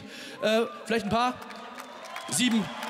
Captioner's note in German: Jubel im Publikum; Weiterer Jubel im Publikum